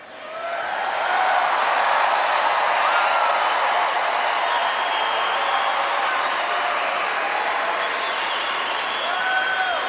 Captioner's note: applause